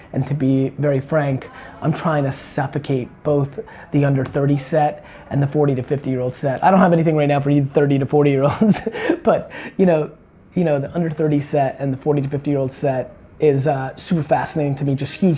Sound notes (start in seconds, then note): 8.4 laughs